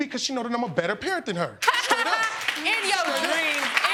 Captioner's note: laughing